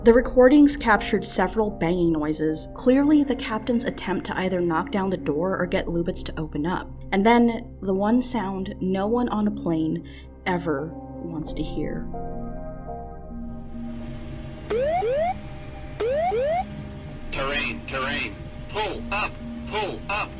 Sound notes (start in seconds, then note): 14.6 siren wails; 17.5 voiceover